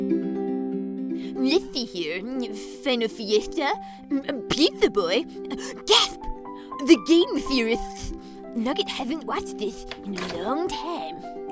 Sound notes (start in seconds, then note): 3.8 gasp